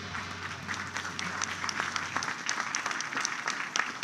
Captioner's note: applause